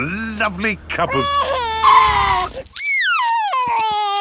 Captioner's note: tires screeching; crying